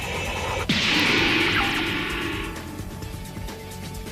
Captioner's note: metallic dragon roar